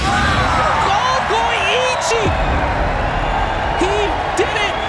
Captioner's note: crowd cheering